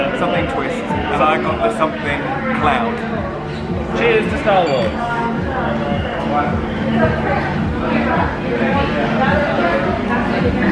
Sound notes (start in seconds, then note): 4.6 glasses clink; 6.4 bar chatter ambience echoes